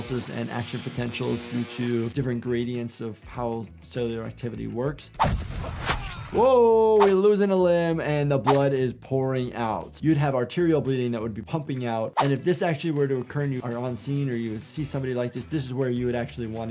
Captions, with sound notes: and action potentials due to different gradients of how cellular activity works. (weapon whooshes) Whoa! We are losing a limb and the blood is pouring out. You'd have arterial bleeding that would be pumping out and if this actually were to occur and you are on scene or you see somebody like this, this is where you would actually want to use